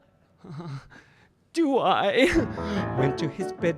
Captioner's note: laughs